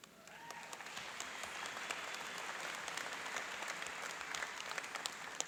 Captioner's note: cheering and applauding